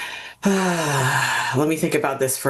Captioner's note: sighs